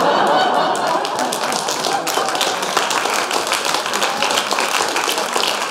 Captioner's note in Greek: γελια και χειροκροτηματα